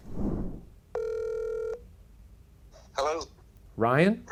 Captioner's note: phone rings